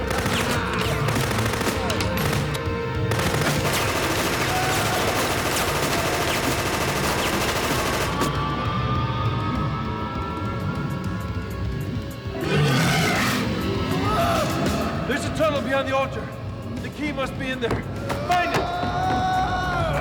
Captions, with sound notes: (gun clicks) (guns fire rapidly) (groans) (minion roars) - There's a tunnel behind the altar. The key must be in there, find it!